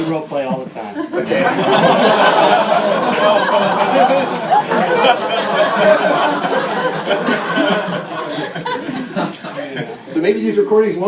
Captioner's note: laughter